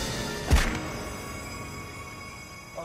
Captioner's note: thumping onto ground